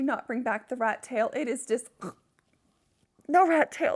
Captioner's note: gags